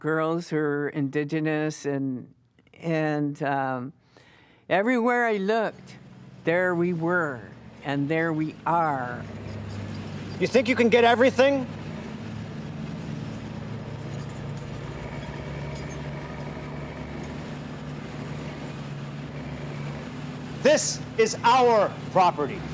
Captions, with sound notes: who are indigenous and everywhere I looked, there we were, and there we are. - You think you can get everything? (engine humming) (chains creaking) This is our property.